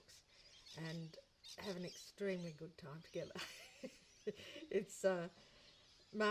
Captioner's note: laughs